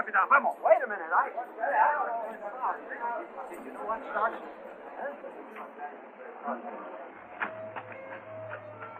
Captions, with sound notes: - Come on! - Wait a minute! [people murmuring]